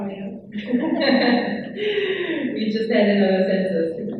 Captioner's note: laughs